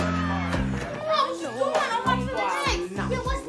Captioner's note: boys exclaiming